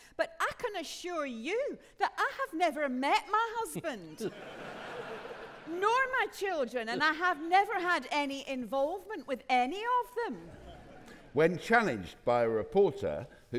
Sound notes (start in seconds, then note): 3.8 audience laughing